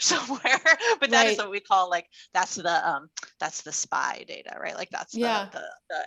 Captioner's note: laughs